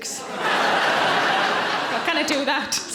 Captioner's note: audience laughing